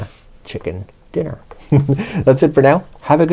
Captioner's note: giggles